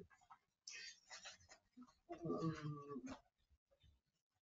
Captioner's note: papers shuffling